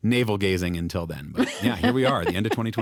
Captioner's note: laughs